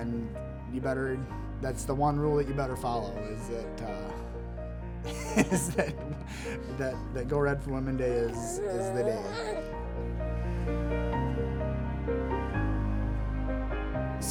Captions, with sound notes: And you better, that's the one rule that you better follow is that (laughs) is that Go Red For Women day is the day. (light piano music)